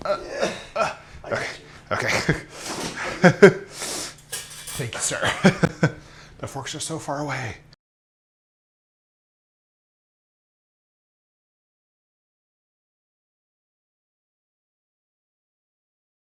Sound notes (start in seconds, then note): 0.6 gasps; 1.2 laughs; 3.9 cutlery clinking